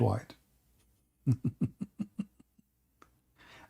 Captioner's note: Ketawa